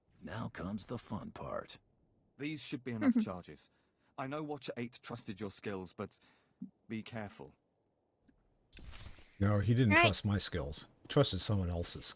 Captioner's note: laughs